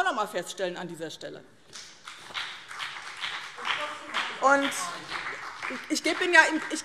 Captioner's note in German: Beifall BÜNDNIS 90/DIE GRÜNEN